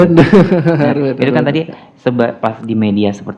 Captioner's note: laugh